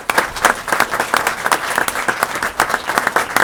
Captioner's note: applause